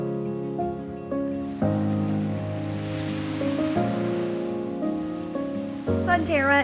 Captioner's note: waves crashing on beach